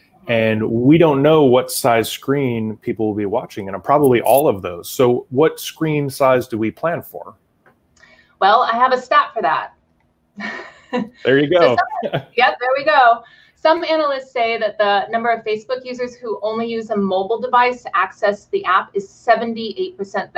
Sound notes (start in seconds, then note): 10.4 laughing